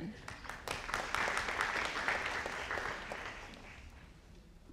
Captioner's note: audience applauding